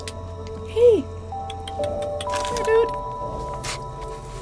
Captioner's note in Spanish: Clics de lengua